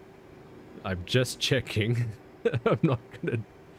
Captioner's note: laugh